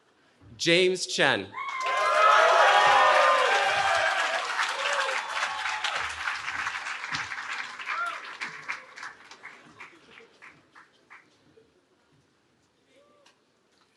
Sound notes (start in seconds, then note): 1.5 cheering